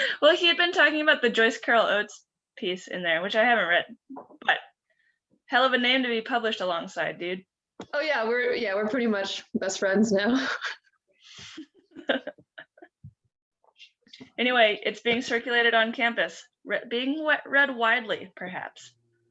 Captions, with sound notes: Well, he'd been talking about the Joyce Carol Oates piece in there which I haven't read. But hell of a name to be published alongside, dude. Oh yeah we're, yeah we're pretty much best friends now. (laughing) Anyway, it's being circulated on campus, being read widely perhaps.